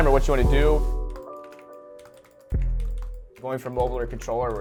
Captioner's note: keyboard clacking